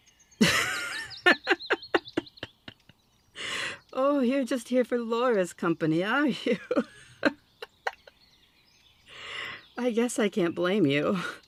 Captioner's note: laughing